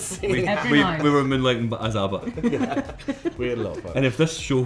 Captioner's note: laughing